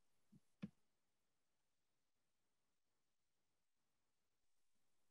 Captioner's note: pause